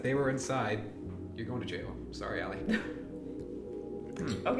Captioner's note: Allison chuckles